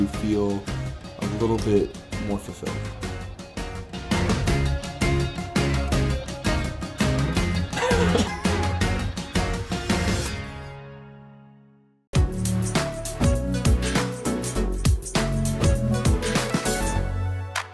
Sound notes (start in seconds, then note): 3.9 upbeat music; 7.1 chuckling